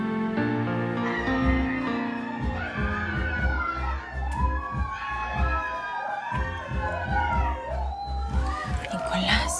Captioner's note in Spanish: Gritos